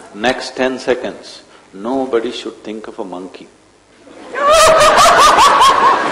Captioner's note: laughter